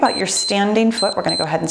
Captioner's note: timer beeps